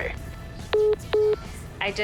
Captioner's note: phone message beeping